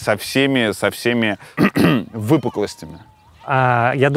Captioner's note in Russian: прочищает горло